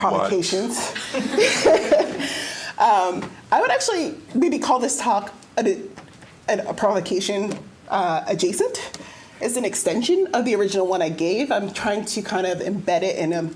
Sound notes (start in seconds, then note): 2.9 laughter